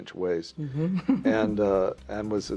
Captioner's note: chuckles